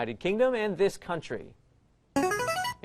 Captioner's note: player buzzer